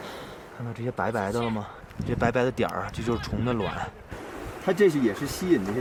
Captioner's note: speaking in foreign language